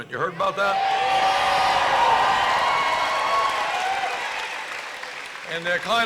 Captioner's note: applause and screams?